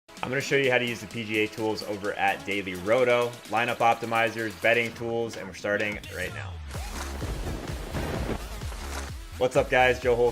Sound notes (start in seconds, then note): 6.8 upbeat music; 7.2 thunder booms